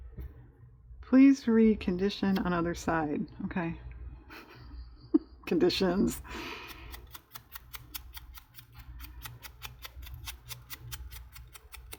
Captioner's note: laughs